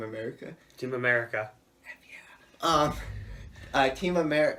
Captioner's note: whispers